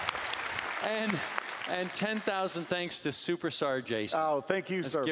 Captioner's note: applause